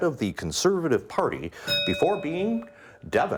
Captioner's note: bell ringing